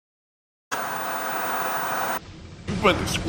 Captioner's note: white noise scratching